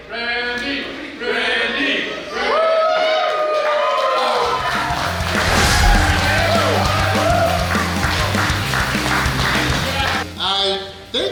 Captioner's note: clapping & Cheering